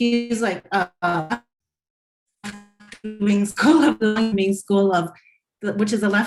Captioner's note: audio distortion